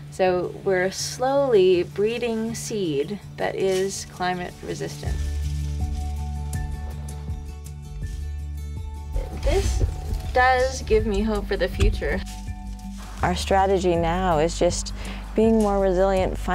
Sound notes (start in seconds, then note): 4.8 seeds rustle; 4.8 upbeat acoustic music